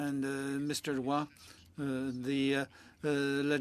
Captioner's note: speaking French